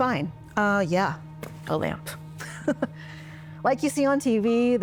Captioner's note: hand thuds; laughs